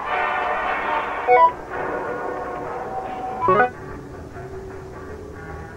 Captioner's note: electronic chirping